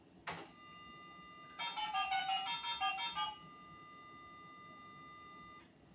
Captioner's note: dial tone and number dialing